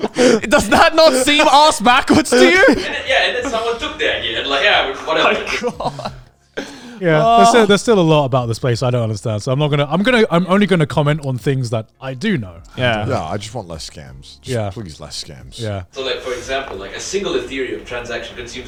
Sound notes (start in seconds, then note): 5.0 chuckles